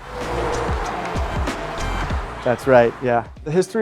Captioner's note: vehicles motors roaring